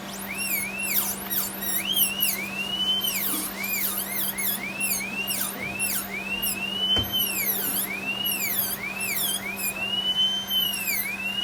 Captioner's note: birds Chirping